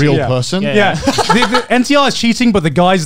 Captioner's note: laughs